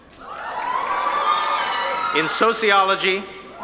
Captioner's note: audience cheering